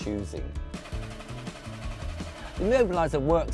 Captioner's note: car engine starting up